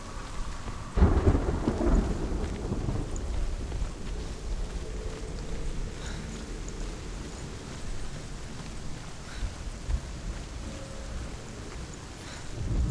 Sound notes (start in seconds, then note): 0.9 thunder crashes